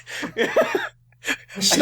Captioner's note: slightly disturbed/worried laughter